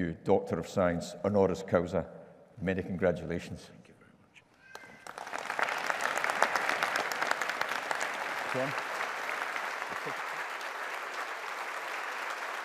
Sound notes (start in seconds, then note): 4.7 audience applauding